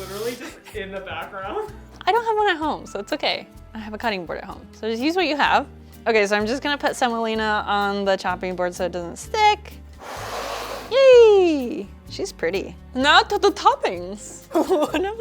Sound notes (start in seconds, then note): 10.0 wood scratches